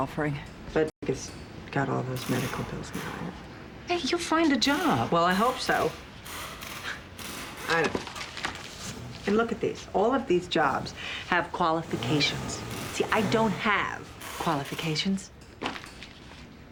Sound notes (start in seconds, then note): 6.7 sighs